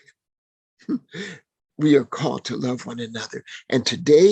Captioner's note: laughing